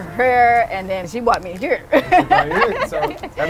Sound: laughing

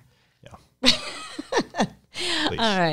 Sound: chuckles

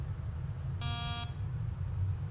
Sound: door buzz

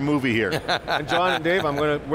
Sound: laughs

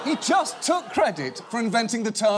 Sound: audience groaning

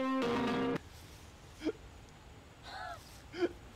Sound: crying

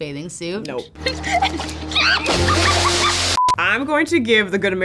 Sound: water splashing; girl screaming

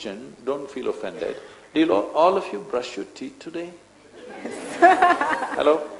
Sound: laughter

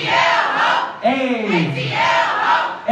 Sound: crowd

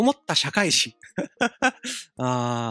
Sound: giggle

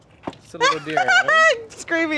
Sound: laughing

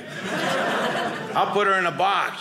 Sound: audience laughing

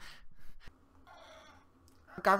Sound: grunting

